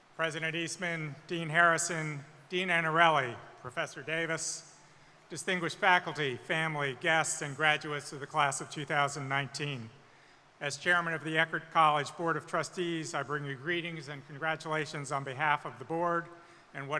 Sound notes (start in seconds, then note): none